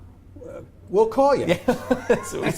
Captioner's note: laughter